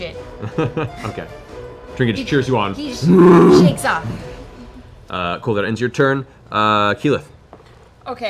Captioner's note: bear growl